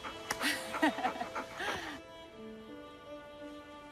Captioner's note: laughs